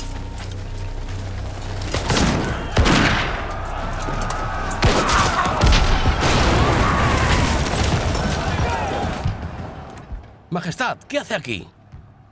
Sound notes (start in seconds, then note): 1.9 guns firing; 4.8 cannon blasts